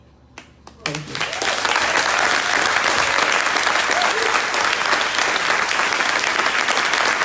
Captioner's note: crowd applauding